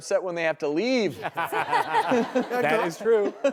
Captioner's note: laughing